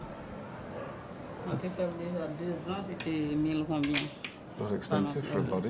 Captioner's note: woman speaking Haitian Creole